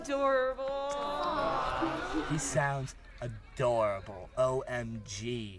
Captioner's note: sarcastic